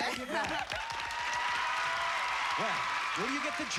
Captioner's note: cheers and applause